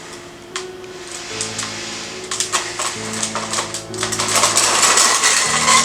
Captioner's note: inhales and Exhales Deeply